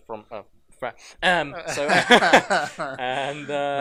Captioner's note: laughter